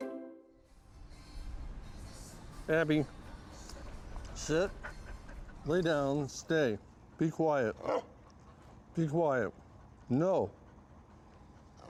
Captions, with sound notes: - Abbie, sit, lay down, stay, be quiet. (growling) Be quiet, no!